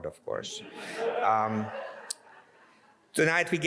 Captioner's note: audience laughs